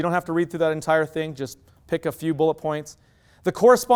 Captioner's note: none